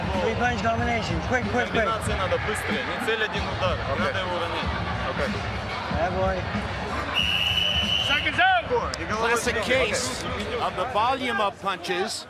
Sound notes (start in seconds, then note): 1.8 speaking Russian; 7.1 whistle blows